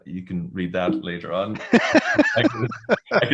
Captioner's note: laughter